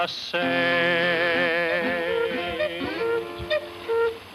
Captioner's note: clock cuckoos